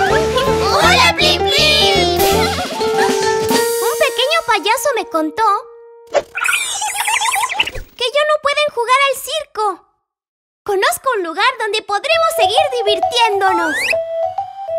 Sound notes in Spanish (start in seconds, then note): 6.4 Sonido de pajaro